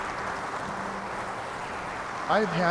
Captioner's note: people clapping